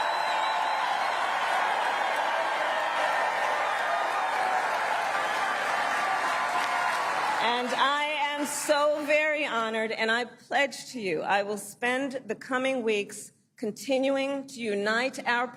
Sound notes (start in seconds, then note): 3.2 cheering and applause